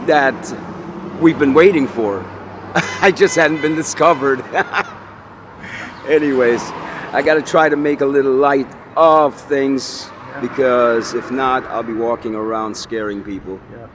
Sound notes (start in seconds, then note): 4.9 laughs